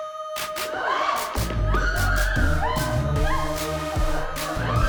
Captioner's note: both screaming